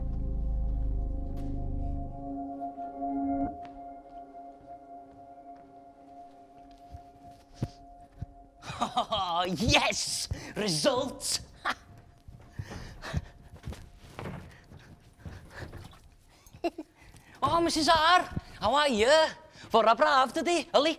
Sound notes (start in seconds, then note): 8.6 laughs